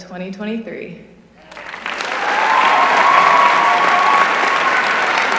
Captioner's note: applause